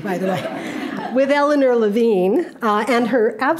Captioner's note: audience laughing